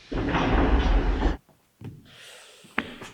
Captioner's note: footsteps stomping